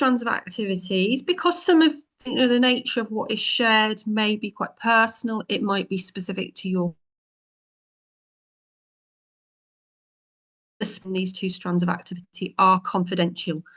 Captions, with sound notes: activities, because some of the nature of what is shared may be quite personal. It might be specific to your [audio cut out.............] These two strands of activity are